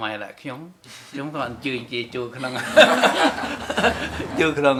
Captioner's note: laughs